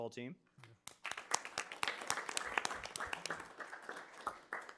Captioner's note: audience clapping